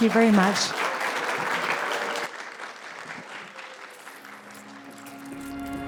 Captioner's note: applause